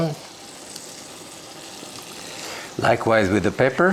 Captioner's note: butter sizzling